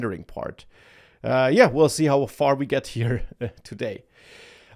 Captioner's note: laughs